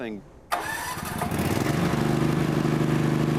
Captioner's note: engine turns over